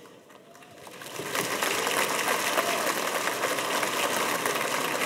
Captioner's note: audience applauding